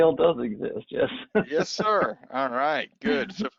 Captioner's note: laughing